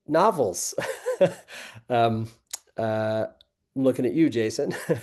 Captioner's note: laughing; laughing